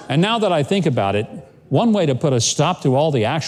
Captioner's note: none